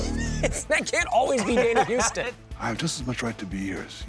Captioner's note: laughs; buzzer sounding